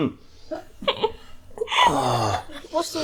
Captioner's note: coughing